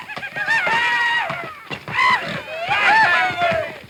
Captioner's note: hands cheering; hands whooping